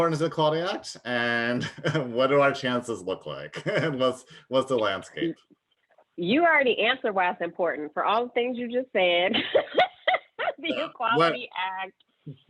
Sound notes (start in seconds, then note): 9.3 laughter